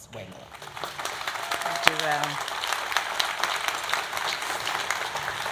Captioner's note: audience applauding